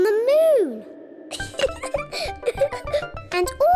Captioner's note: laughs